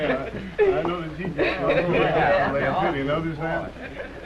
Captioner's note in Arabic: ضحك